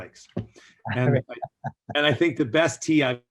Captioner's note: laughs